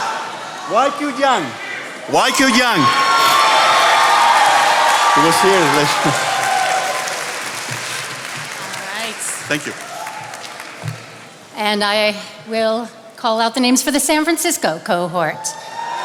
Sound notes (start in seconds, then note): 3.5 attendees applauding